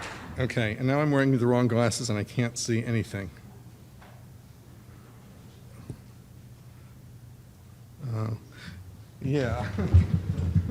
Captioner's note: laughs